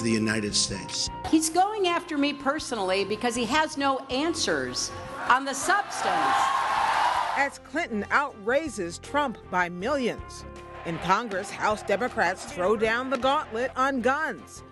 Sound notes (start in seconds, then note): 5.1 cheers, applause